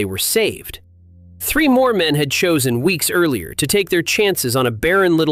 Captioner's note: thoughtful